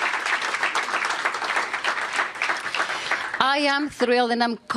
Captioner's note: applause